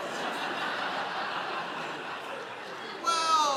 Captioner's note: audience laughing